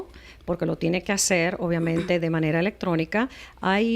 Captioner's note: Hablando ingl\s